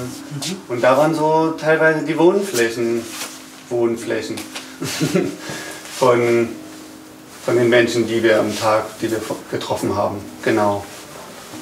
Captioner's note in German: lacht irritierend